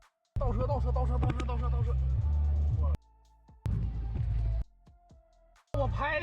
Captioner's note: man speaking in foreign language